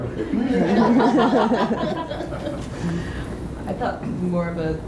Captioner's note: laughter